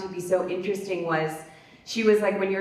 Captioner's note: none